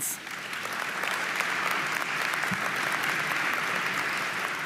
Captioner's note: audience applauding